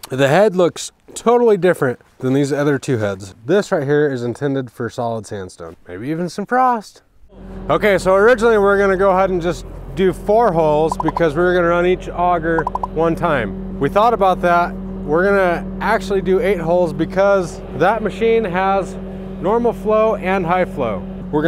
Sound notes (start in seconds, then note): 10.4 pop sound; 12.6 pop sound